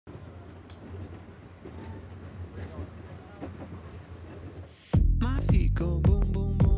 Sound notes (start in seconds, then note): 0.1 train whirs